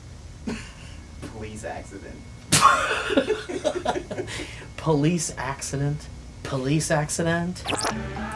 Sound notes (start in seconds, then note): 2.5 laughing